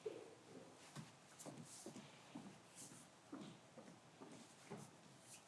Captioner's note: footsteps approaching